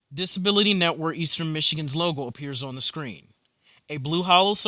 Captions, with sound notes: (Voiceover) Reading Screen